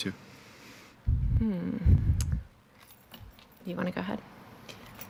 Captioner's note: hums